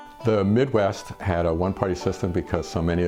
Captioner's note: voiceover